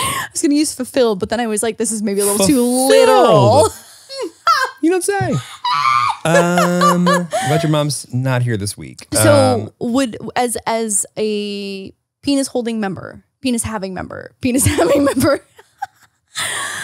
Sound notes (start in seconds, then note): 5.2 laughs; 16.2 laughs